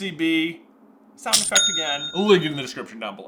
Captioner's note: cha-ching sound effect